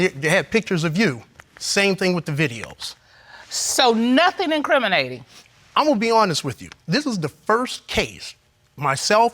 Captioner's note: none